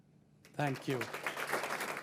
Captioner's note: applause